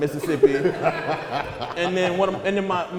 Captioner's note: audience laughter